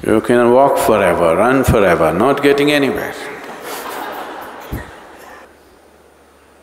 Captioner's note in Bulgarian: Всички се смеят